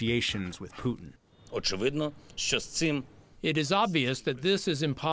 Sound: through translator

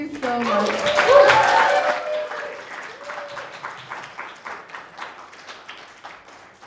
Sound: crowd applauding; crowd cheering

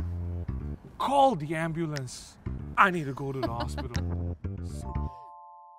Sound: laughs

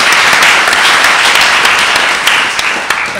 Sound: applause

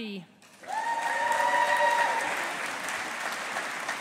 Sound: audience applauding

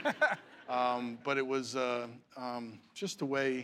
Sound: laughter

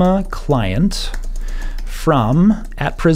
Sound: tapping key board

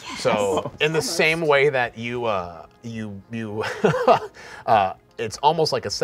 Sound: laughing

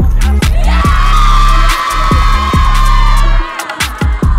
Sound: cheering

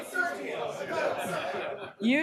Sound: laughing

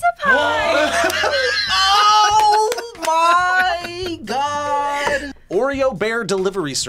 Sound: gasps

